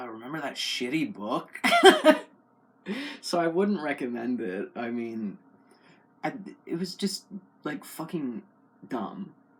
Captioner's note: laugh